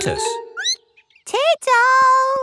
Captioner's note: squeaks